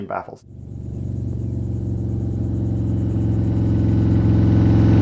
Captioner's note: motorbike roars, 2,500 RPM